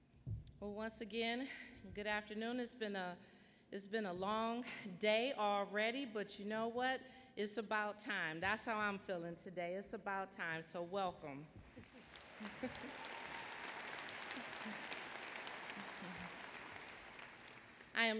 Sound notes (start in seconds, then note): 12.2 laughter; 13.6 applause